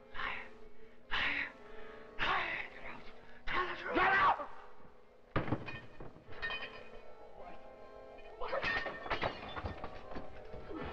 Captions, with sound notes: [Voices whispering] Liar, liar, liar! [Dover screams] [Sounds of lamp falling over]